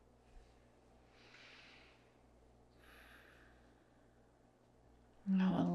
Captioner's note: instructor inhales and exhales